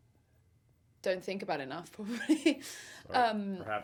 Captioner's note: chuckles